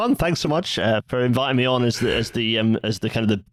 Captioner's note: yawns